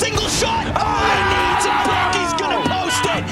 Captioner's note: attendees cheering